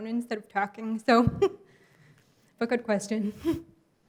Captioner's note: giggles